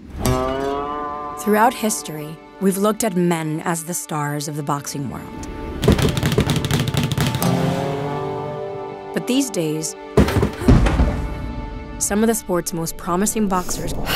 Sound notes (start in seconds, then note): 0.1 twangy country music; 5.8 rapid thumping